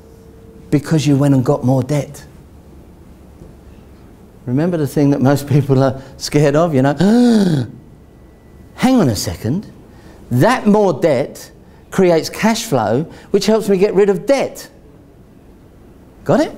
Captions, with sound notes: because you went and got more debt. Remember the thing that most people are scared of, you know, (gasps) hang on a second, that more debt creates cash flow, which helps me get rid of debt, got it?